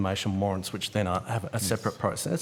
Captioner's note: murmurs